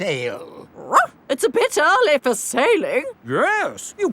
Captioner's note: barks